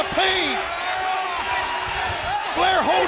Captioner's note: crowd cheering